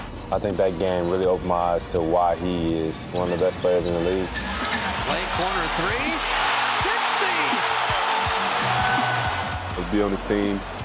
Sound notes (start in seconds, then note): 4.4 crowd cheering